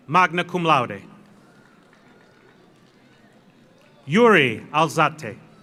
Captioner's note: audience applauds